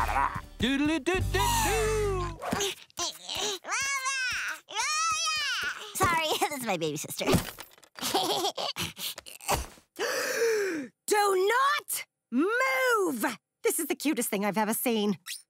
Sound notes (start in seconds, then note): 8.0 laughing; 8.7 gasping